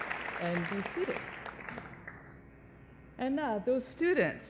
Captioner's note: applause